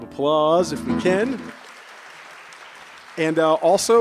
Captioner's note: cheers and applause